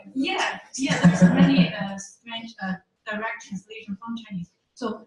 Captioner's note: ding